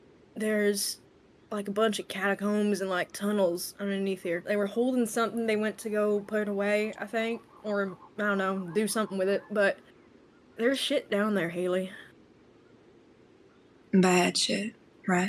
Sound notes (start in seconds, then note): none